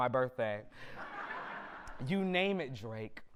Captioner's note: audience laughter